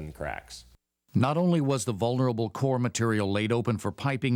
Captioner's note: voiceover